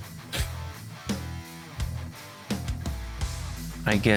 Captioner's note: sniff